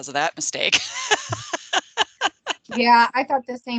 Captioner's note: laughing